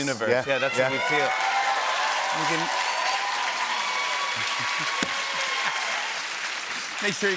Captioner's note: cheers and applause